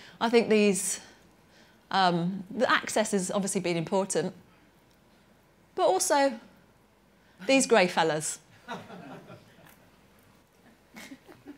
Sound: laughter

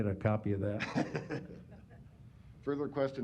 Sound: laughter

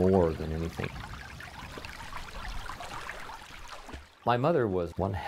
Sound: babbling water, splashing

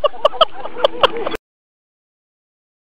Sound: laughter

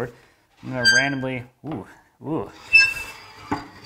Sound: board squeaking

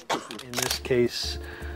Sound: speaking foreign language; camera flashes

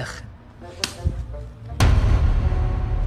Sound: slaps

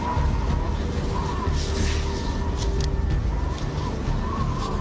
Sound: wind whirring

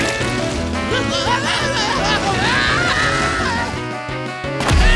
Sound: screams

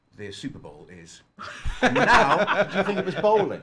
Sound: laughs

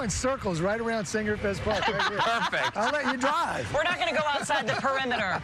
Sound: laughter

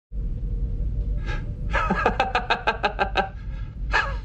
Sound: forced laugh

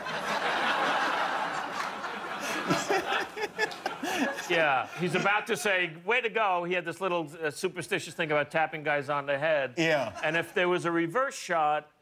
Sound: laughter

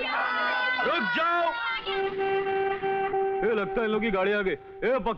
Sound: horn blares

